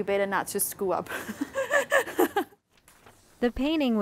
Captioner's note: laughs